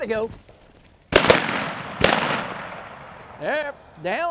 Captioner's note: gunshots crack